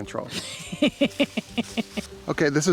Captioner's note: camera woman laughs